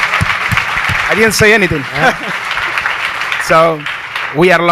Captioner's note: audience applauds; laughs